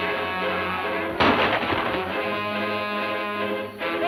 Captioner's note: gun roars